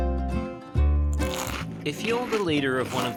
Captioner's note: crunching